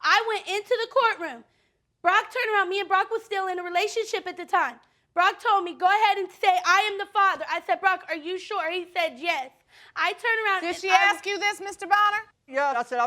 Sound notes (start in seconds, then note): none